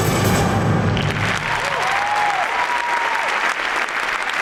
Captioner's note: audience applauds